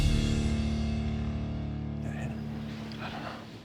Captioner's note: whispering